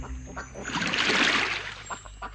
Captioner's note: splash